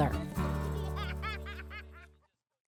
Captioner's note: child laughing